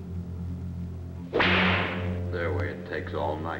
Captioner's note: whip cracks